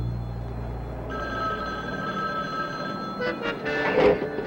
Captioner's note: phone ringing; suspenseful music